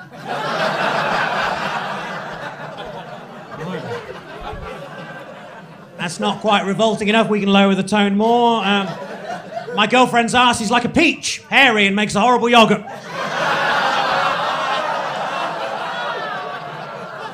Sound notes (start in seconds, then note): 0.0 crowd laughing; 12.8 crowd laughing